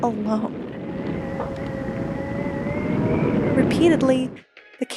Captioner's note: wind howling